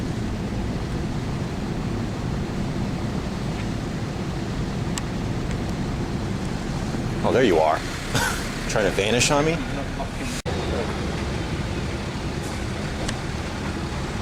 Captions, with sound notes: Oh, there you are. (Laught) Trying to vanish on me?